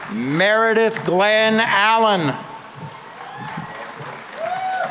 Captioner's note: cheering and applause